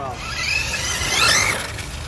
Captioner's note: RC car whirring